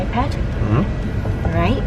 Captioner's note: male Voice